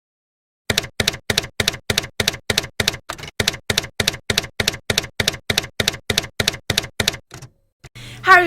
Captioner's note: typewriter keys clacking